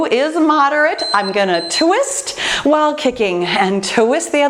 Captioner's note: timer beeping